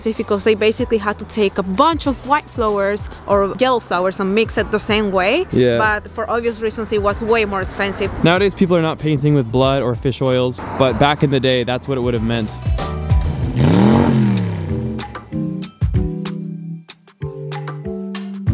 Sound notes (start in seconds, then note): 12.4 engine revving; 15.0 light rhythmic music